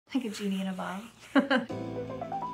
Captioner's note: woman laughing; bright music